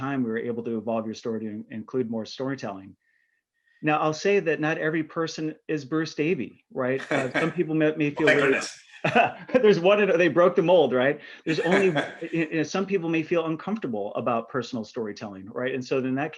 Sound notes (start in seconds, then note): 7.0 chuckling; 11.4 chuckling